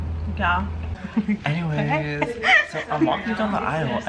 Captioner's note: laughing